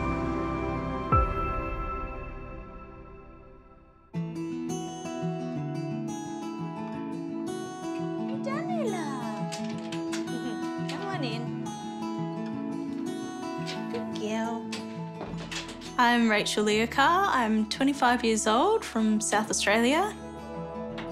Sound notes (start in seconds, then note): 4.1 gentle guitar music; 10.2 chuckles